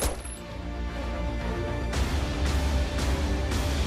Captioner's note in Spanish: Disparo